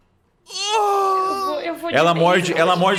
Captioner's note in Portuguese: Grito de dor